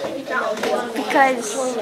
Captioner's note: chatter